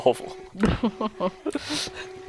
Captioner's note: laughing